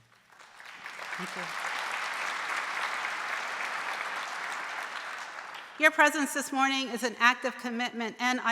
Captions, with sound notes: (audience applauding) Thank you. Your presence this morning is an act of commitment,